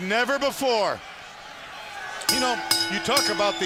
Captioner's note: bell ringing